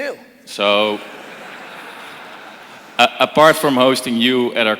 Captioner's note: crowd laughing